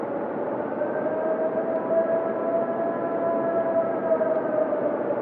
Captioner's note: animal wailing